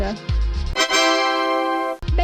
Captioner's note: tada!